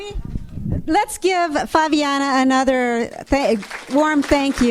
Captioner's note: audience applauds